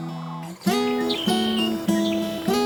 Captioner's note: bird chirping